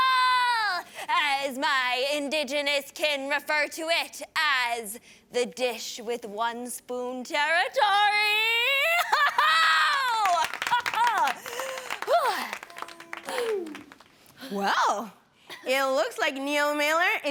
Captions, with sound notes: Dish With One Spoon Territory! Aho! -Aho, woo! -[Cheering & applauding] Well, it looks like Neil Miller is the Land Acknowledger to beat! Woo! Okay!